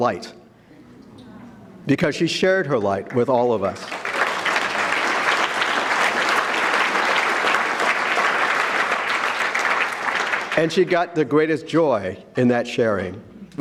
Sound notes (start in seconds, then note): 3.7 audience clapping